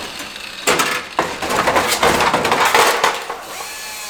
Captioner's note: cracking